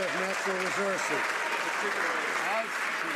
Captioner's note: some Applause